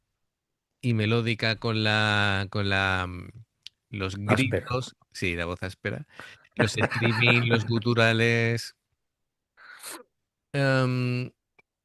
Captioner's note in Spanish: resoplido